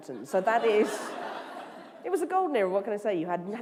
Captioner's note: laughter